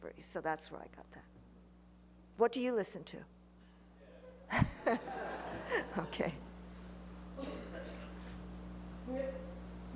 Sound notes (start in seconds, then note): 4.2 laughter; 4.5 laughs